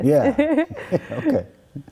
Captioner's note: laughing